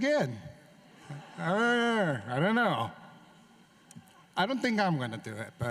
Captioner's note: laughter